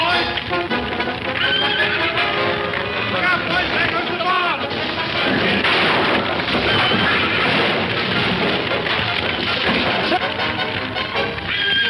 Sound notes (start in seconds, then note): 1.2 horse whinnies; 4.0 fire crackling; 4.0 objects crashing; 11.4 horse whinnying